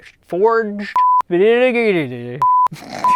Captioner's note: stammers